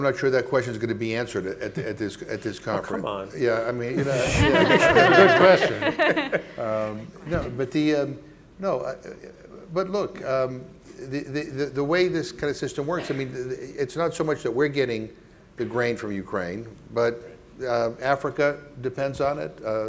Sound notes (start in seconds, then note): 4.0 panel laughing; 6.6 stammering